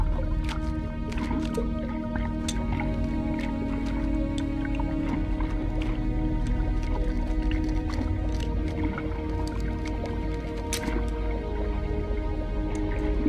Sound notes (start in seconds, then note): none